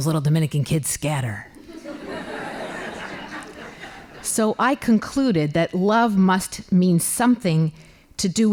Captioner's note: laughing